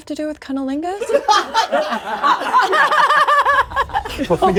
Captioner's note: all laughing